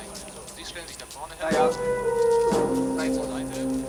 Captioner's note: speaking german